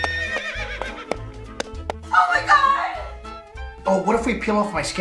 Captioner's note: horse neighing